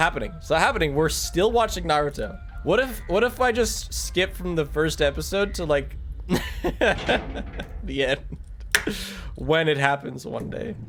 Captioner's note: laughs